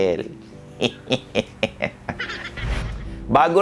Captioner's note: evil laughing